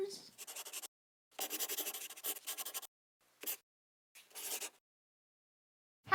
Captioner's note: the sound of a pen scratching